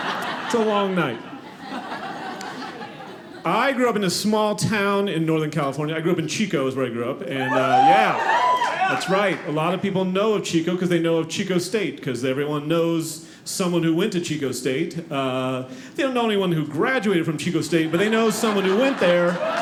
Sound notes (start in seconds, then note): 7.4 audience cheering